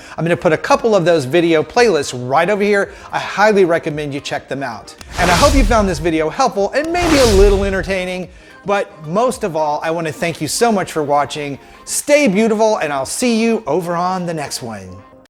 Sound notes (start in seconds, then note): 5.0 logo whooshing